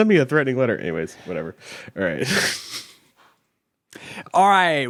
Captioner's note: chuckles